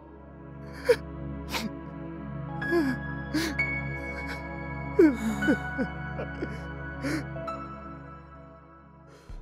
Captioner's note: sobbing